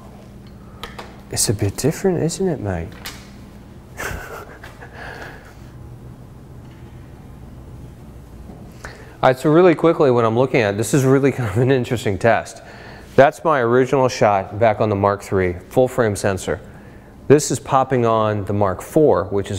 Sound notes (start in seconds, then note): 3.9 chuckling